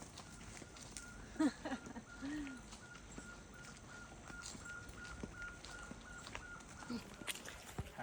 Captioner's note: laughing